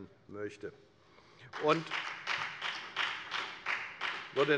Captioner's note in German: Beifall bei der FDP